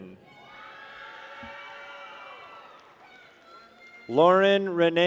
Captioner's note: people cheer